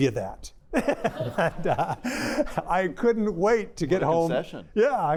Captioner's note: laughter